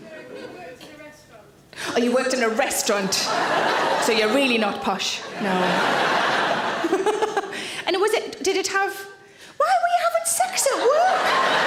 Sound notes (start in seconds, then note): 2.9 audience laughing; 5.3 laughs; 10.8 audience laughing